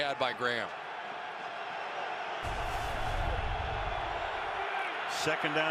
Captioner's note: cheers